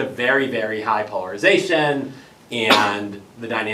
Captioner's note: cough